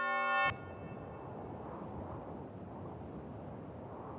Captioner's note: wind whipping